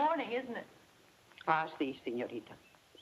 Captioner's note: speaks in foreign language